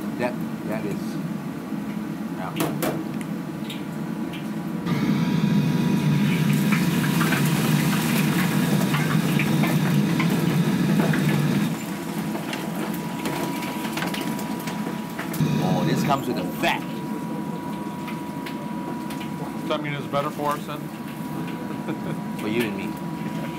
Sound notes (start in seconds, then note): 4.9 loud Kitchen fan